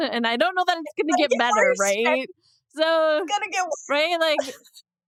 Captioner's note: laughs